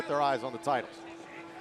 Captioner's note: bell ringing